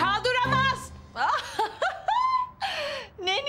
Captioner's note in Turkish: Gülüyor